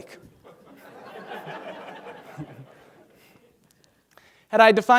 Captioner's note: laughter